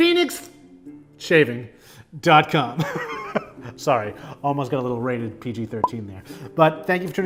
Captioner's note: laughs